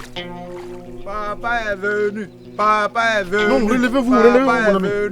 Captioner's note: apostles shouting